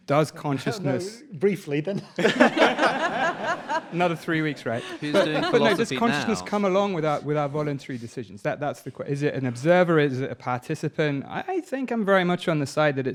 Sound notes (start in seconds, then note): 2.1 audience laughing